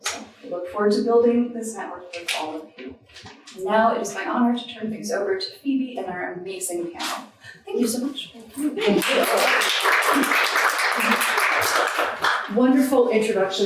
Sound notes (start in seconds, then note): 9.0 audience applauding